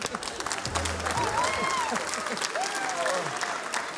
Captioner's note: cheering, applause